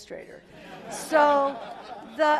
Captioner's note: laugh